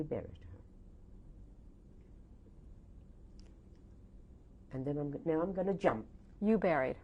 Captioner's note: pauses for 3 seconds